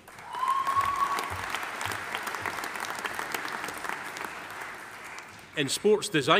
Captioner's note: audience applauding; audience cheering